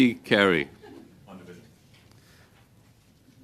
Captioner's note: laughter